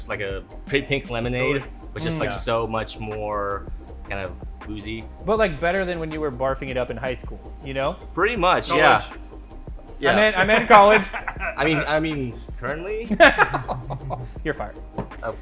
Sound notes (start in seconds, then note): 10.1 laughs; 13.6 laughs